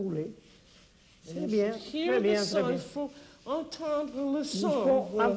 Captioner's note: speaking French